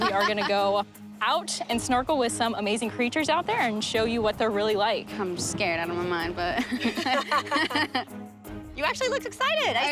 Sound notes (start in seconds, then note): 0.0 laughing; 6.6 all laughing